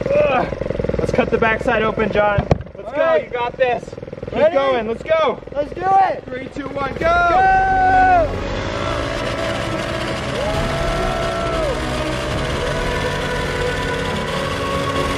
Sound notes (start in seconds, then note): 7.5 machine revving increases